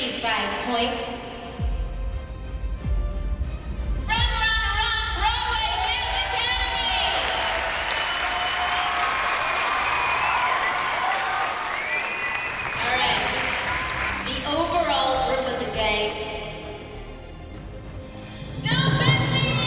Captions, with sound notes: "Run, Run, Run," Broadway Dance Academy! [cheers and applause] All right. The overall group of the day... [tense music playing] "Don't Fence Me In," Abby Lee Dance Company! Well done, girls!